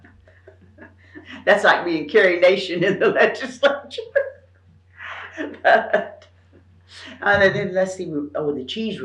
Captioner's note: laughs